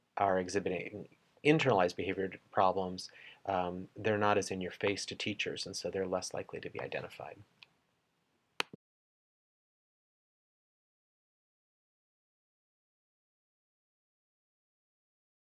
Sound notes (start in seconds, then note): 8.6 clicking noise; 10.1 silence